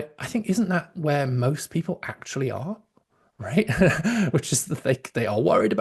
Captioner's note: laughs